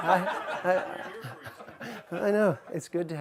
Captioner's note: voiceover